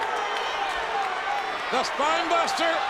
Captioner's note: audience cheering